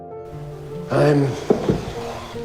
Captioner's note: voiceover